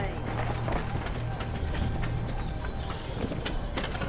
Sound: cart trundles

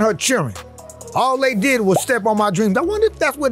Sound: word pops

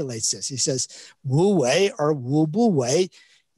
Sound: speaks in Chinese

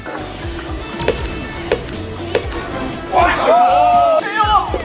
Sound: powerful tosses and shouting

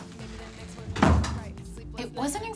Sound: door closes

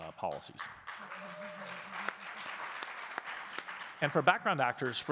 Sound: audience clapping

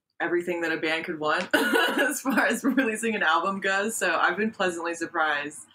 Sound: laughs

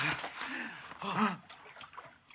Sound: gasping

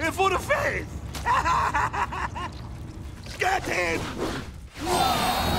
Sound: laughing

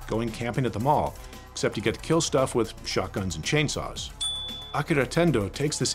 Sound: dinging sound

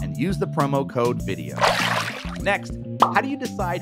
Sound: water splashing

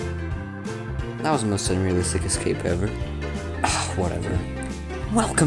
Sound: sigh

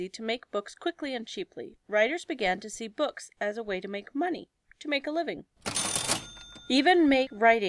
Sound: ding

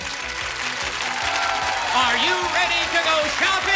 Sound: cheers and applause

